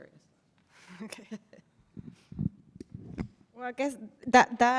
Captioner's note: chuckles